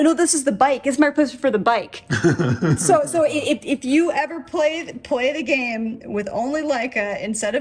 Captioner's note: chuckles